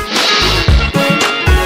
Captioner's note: crash!